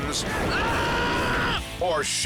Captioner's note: skydiver screams